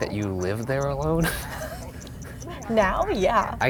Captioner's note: both laughing